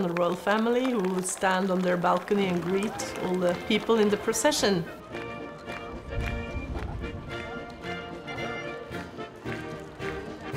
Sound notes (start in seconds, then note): 4.9 marching band music; 4.9 people chatter indistinctly